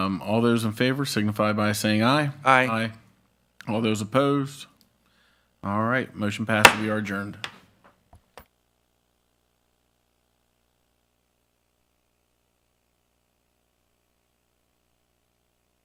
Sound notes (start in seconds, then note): 9.9 gavel pounds